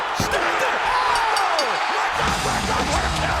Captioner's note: bell ringing; audience cheering and clapping